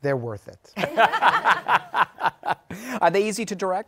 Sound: laughter

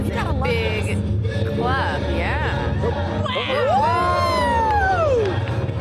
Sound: laughing

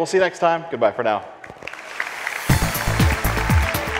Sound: applause; upbeat techno music

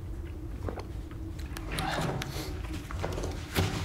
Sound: gulping

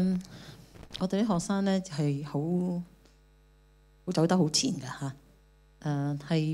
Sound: Cantonese

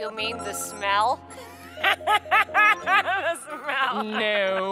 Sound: laughing

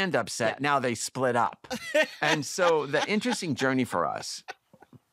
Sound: laughter

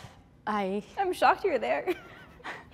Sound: laughs

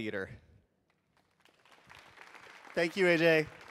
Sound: audience applauding

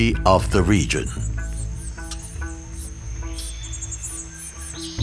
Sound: birds chirping

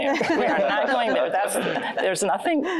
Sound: laughter

